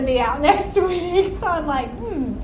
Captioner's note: laughs